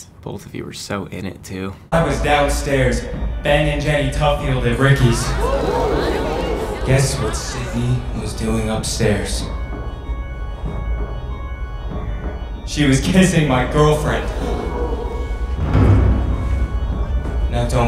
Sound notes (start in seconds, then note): 5.1 audience gasps; 9.5 tense music; 14.1 audience gasps